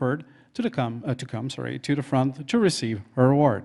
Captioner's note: in English